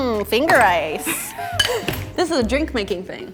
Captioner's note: laughing